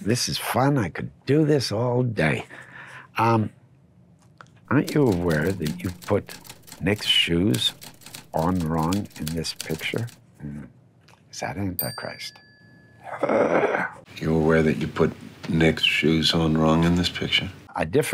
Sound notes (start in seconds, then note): 11.8 bell dinging; 13.1 groaning